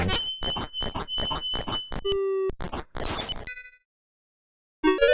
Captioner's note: high-pitched squeaking; 8-bit flourish